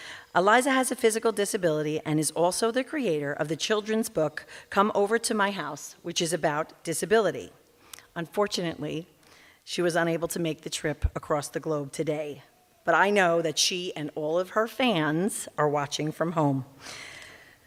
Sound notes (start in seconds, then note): none